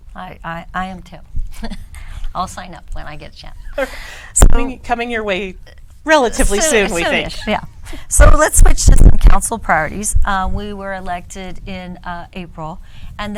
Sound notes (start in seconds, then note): 3.7 woman laughs